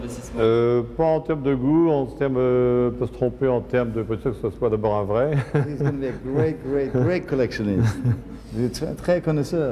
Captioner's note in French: rires